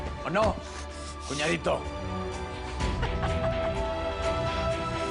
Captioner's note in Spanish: Ríe